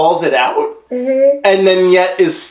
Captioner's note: muffled by wine glass